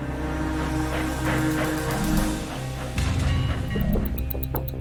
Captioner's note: dramatic music; train chugging; watch ticking